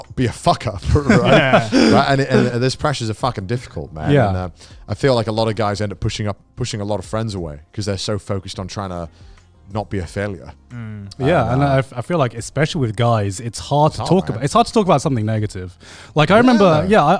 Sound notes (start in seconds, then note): 0.8 laughing